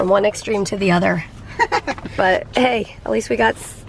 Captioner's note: chuckles